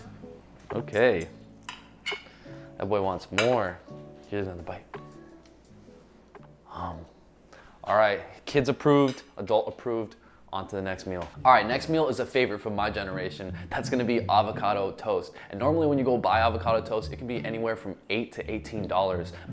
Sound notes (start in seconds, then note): 5.5 upbeat electronic music; 7.2 mumbling